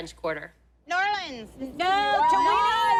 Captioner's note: cheering